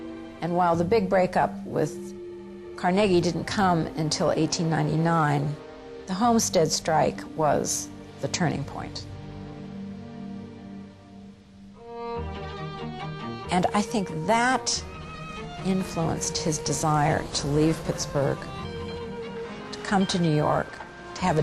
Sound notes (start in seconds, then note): 12.0 gentle orchestral music; 18.4 bell ringing